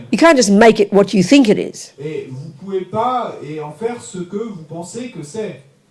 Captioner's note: audience member speaks in French